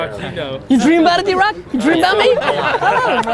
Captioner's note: group laughter